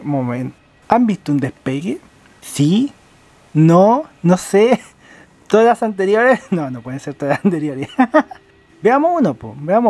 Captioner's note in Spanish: risas